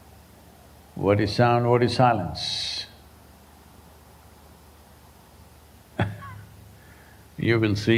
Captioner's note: laughs